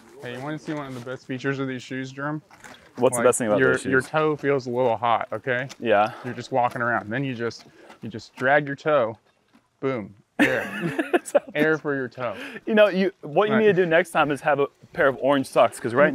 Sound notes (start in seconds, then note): 10.4 laughter